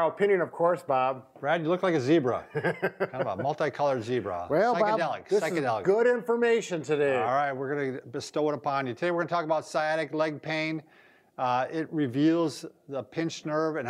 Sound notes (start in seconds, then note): 2.5 chuckling